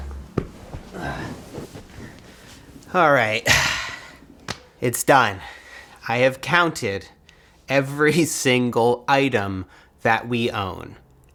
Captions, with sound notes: All right. (sighs) It's done. I have counted every single item that we own.